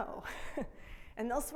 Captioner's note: laughs